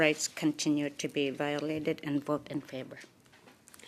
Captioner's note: speaking French